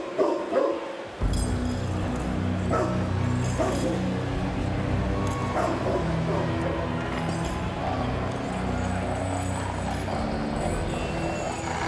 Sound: dog barking

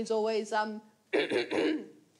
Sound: clears throat

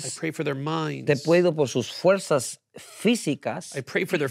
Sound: speaking in Spanish

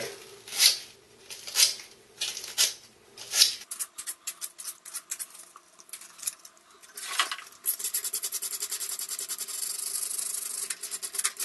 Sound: sped up sandpapering noises

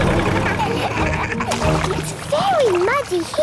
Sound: laughing

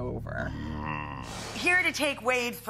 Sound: groaning

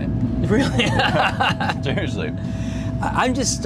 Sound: laughs

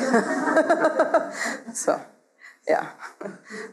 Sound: audience laughs

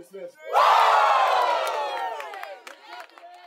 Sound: cheering

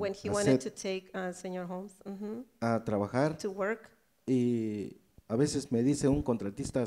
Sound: speaks in foreign language

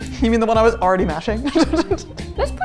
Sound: laughing

